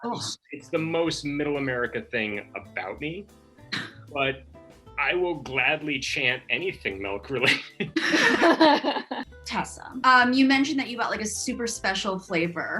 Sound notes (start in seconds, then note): 7.4 all laugh